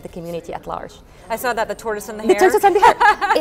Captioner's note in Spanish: riendo